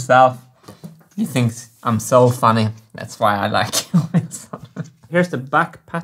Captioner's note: chuckles